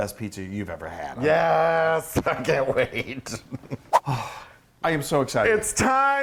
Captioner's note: laugh